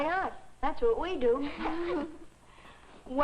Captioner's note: giggling